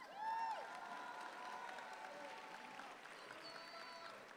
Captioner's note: audience applauds